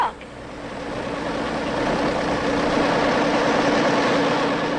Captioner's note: engines rumbling